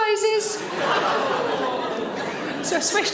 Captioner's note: audience laughing